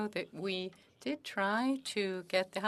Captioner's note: speaking French